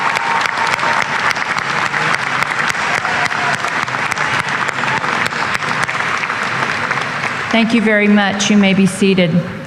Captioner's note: applause